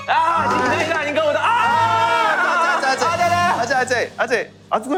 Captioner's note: fussing